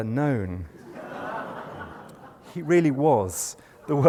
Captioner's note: laughter